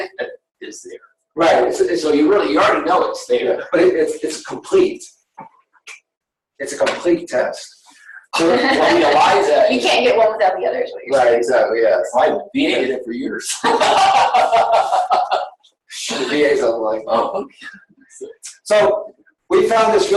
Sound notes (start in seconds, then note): 13.5 laughter